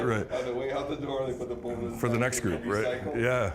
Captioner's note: laughing